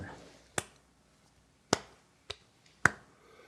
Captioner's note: clapping